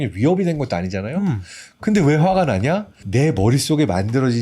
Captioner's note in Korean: 호응하는 소리